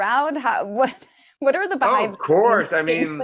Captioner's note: laughing